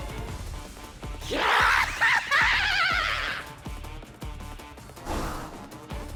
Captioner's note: laughing